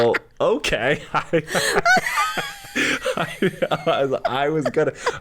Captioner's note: both laugh